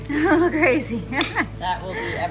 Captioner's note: laughs